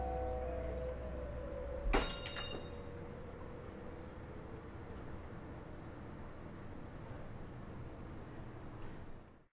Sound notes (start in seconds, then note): 1.9 door bell rings